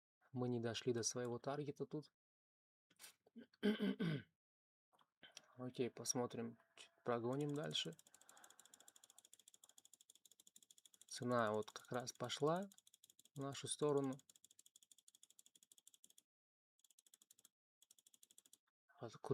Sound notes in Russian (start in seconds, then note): 3.6 откашливается